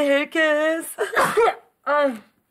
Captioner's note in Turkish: Hapşırma sesi